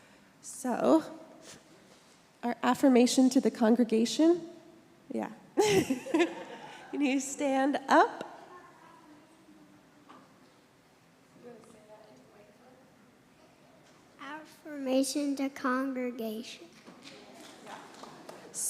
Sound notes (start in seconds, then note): 5.6 laughs; 5.6 congregation laughs; 17.5 congregation applauds